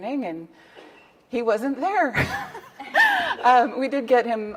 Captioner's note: laughs